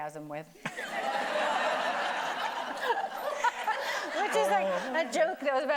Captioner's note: everybody laughing